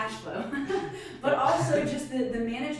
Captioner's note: laughs